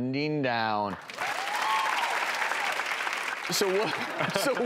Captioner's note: audience applauding